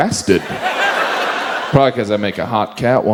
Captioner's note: audience laughs